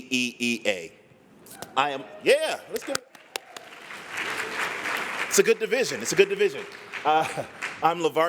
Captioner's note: applause